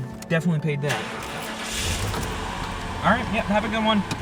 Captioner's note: car engine rumbling